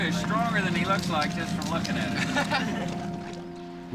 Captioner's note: laughter